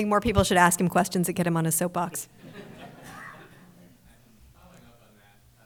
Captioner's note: audience chuckles